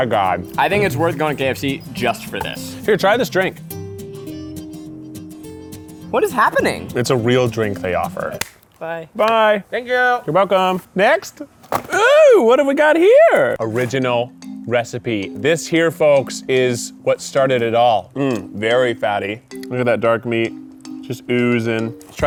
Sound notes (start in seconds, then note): 4.7 upbeat music continues; 8.3 hands smack